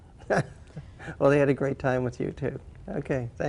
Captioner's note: laughs